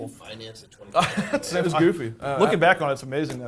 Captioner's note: laughing